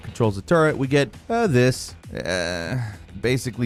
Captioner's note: groans